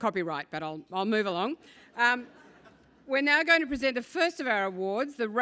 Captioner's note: laugh